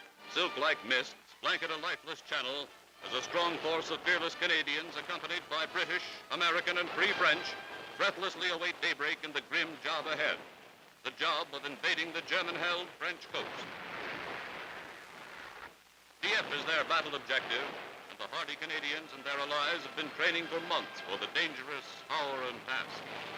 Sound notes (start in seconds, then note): 13.4 explosions; 23.1 explosions